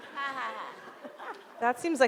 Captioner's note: audience laughs